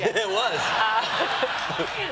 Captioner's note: laughter